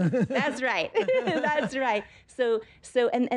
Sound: laughs

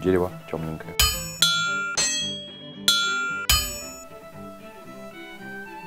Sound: anvil sounds

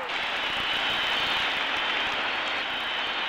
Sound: cheering

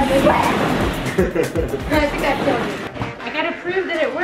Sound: laughs

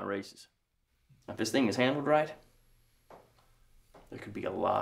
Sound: none

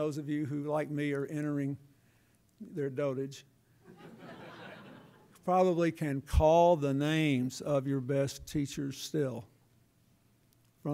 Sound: laughter

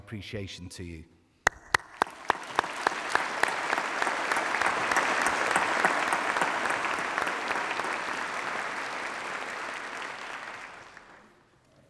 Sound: applause

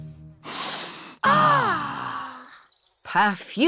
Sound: all sniff

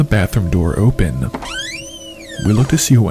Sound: bathroom door opening

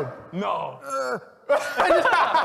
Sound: groan; laughter

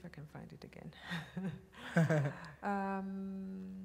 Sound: laughter

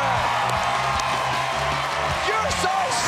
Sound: cheers and applause

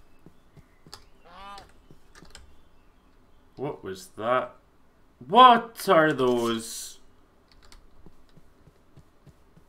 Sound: goose Noises

